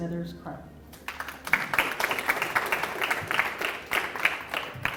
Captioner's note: audience applauding